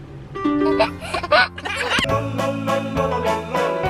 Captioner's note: laughing; upbeat music